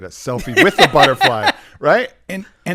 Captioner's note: laughing